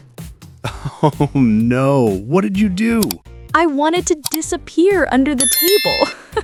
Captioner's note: laughing; laughs